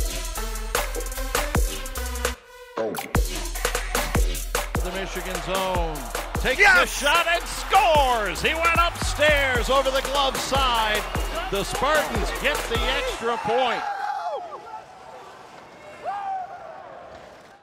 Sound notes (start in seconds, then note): 14.0 players cheering